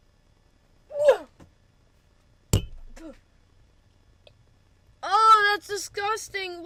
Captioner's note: gagging and spitting